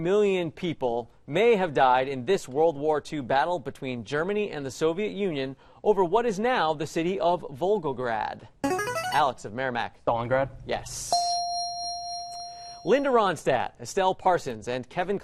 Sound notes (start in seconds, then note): 8.1 player buzzer; 11.1 ding